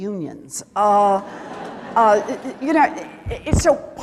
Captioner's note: laughter